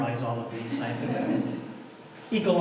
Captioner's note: audience laughter